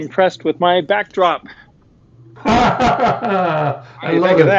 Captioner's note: laughing